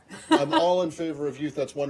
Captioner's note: laughter